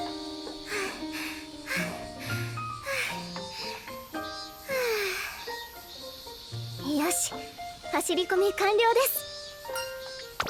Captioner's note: pant